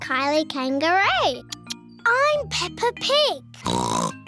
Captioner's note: oinks